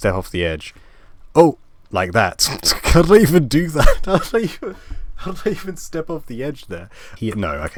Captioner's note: laughing